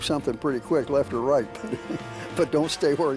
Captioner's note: chuckles